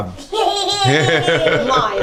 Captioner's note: family laughs